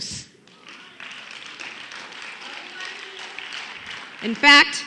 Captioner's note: applause